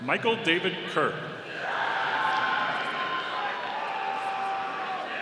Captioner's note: audience cheering